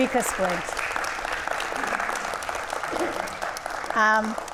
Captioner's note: audience applauds